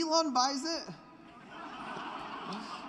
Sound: laughter

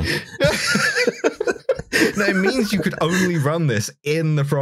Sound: helpless laughter

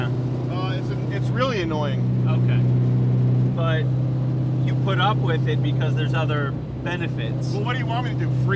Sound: none

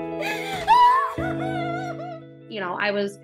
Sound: crying

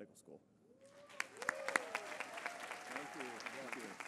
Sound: applause

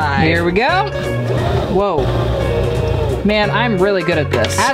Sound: sewing machine whirring

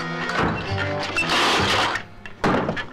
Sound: tables crash; bottle clatters

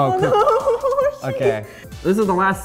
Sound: laughter

